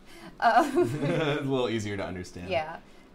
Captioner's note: laughing